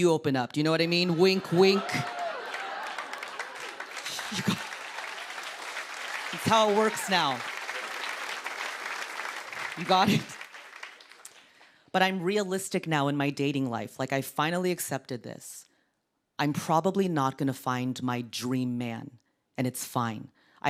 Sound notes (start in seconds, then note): 4.3 cheers and applause